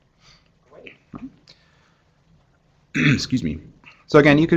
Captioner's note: cough